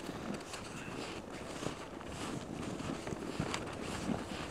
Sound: snow crunching

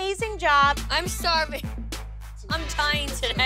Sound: laughs

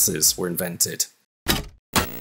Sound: TV Static

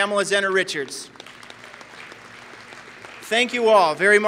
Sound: applause

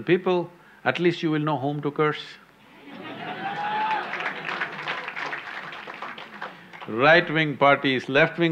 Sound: laughter/Applause

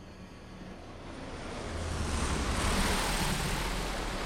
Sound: none

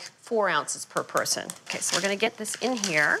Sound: steak sizzling; paper crinkling

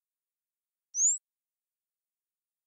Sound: birds chirping

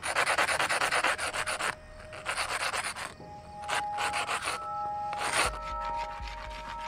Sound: rock scratching continues

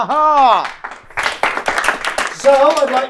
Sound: feeble clapping

